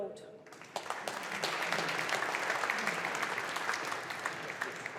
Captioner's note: audience applauding